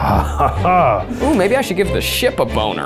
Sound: chuckling

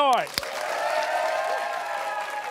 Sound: cheers and applause

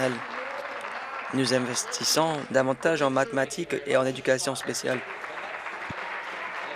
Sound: applause

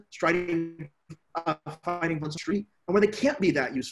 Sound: mic cuts off sound

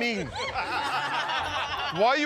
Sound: laughter

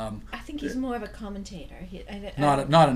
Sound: voiceover

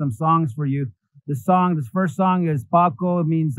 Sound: foreign language

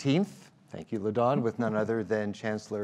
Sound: murmurs

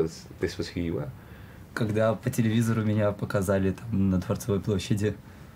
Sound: speaking in foreign language

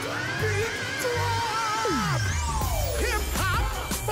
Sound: scream

